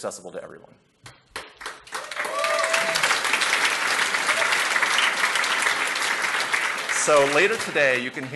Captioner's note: applause